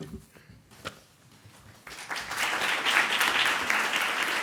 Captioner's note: clapping